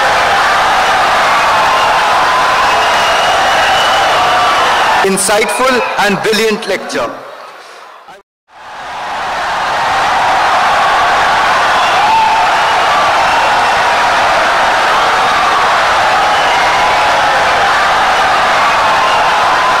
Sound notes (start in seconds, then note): 5.6 wild applause and cheering for 17 seconds